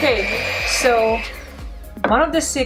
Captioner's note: machine whirls